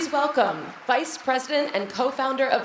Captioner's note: applause